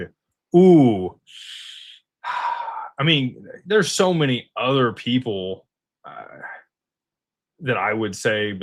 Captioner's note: sighs and gasps